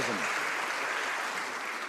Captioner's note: some Applause